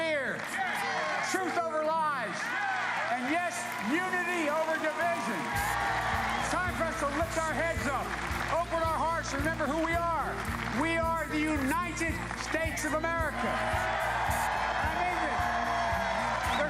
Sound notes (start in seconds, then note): 6.0 cheers and applause